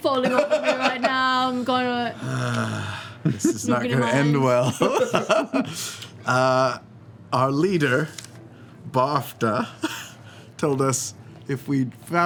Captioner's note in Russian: вздыхает